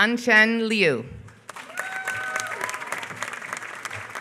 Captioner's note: applause